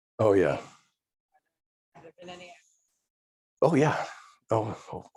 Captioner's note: faintly speaking